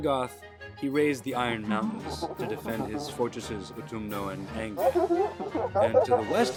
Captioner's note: distorted laughter